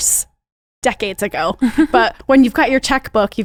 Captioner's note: laughs